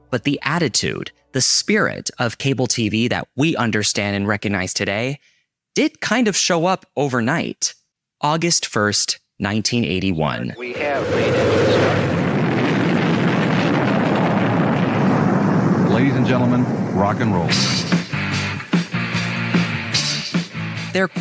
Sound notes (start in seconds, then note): 12.3 rocket engine roaring; 17.4 rock music